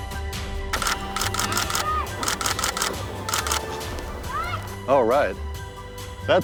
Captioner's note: camera shutters click